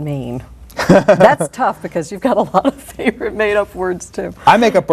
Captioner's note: laughter